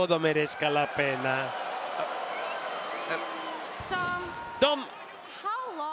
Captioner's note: applause